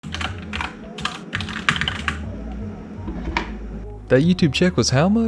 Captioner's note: keyboard keys clattering